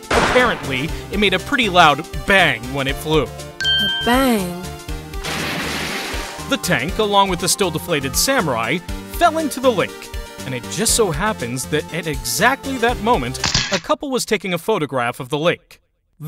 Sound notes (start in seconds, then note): 5.2 splash!